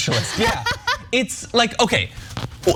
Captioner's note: laugh